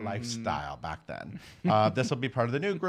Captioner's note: chuckling